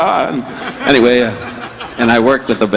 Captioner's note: audience laughing